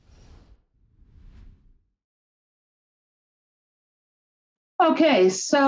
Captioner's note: silence